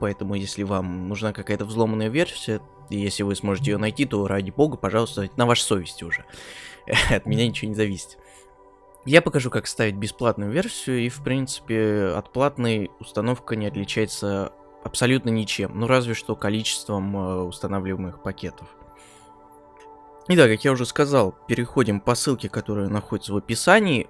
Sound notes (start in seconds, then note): 6.9 nervous laugh